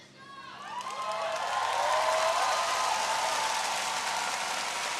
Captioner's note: audience cheering